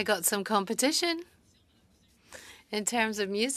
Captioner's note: speaking French